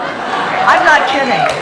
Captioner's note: audience laughing